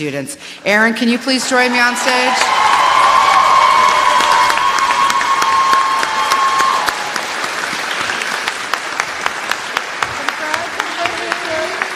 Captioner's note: applause